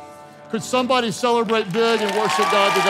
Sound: congregation cheering

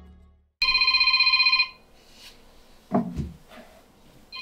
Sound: mobile Phone ringing

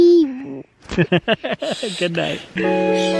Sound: laughs; relaxing music

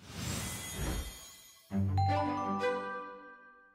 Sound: chimes

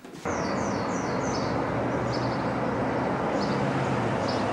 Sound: birds chirping

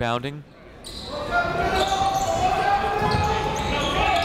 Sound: chatter

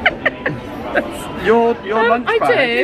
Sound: laughing

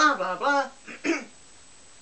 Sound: clears throat

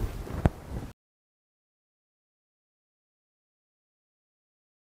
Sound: silence

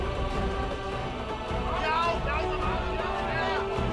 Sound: men shouting

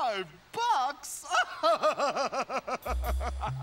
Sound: laughing

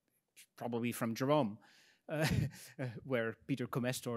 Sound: laughs

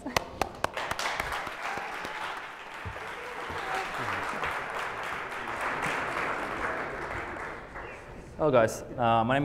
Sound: applause

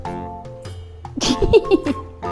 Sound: laughs

